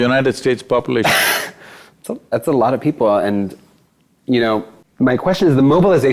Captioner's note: laughs